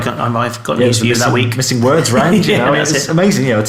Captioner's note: laughing